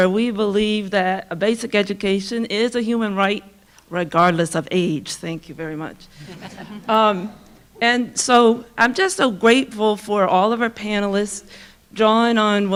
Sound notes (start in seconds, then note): 6.2 audience laughing